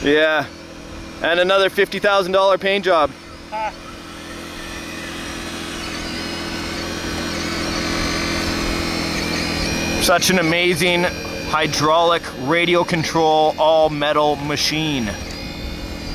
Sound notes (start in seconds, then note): 4.3 machine whirring